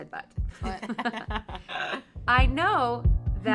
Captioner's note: all laugh